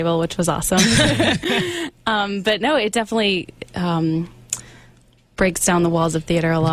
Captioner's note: all laugh